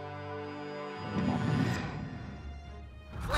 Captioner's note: Appa grunting